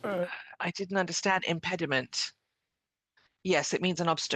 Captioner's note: speaking French